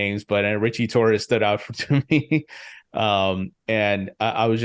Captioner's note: chuckles